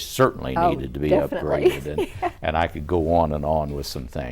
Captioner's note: laughs